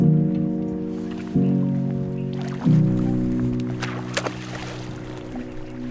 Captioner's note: sad piano music; water plops